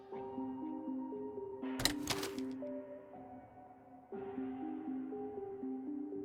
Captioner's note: click